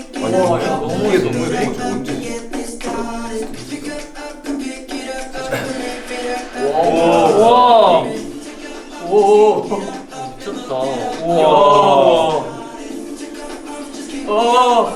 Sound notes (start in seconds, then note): 0.1 murmurs at the vibey blue-hour group dance scene; 5.6 the airplane passes